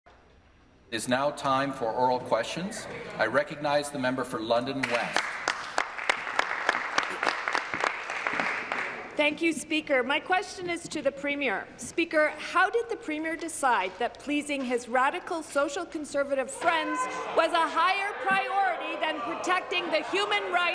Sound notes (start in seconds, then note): 0.5 applause; 8.1 applause